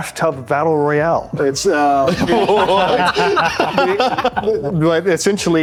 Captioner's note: laughing